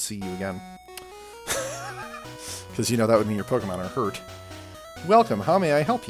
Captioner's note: laughs